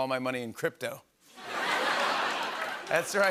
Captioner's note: laughter